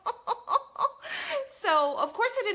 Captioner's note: laughs